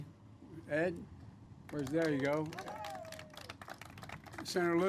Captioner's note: applause